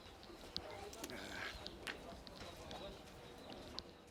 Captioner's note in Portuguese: Passos, canto de pássaros, suspiro e vozes no fundo